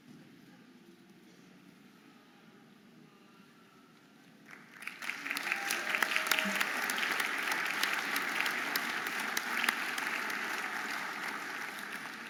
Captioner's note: audience applauding and cheering